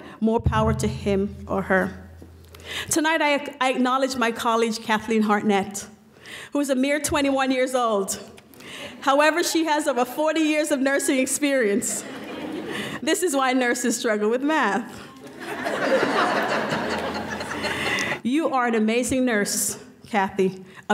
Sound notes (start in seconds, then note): 15.2 laughing